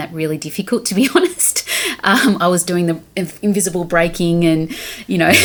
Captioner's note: laughing